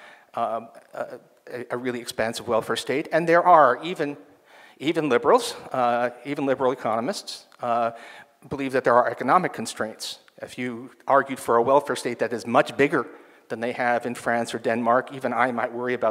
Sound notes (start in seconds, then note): none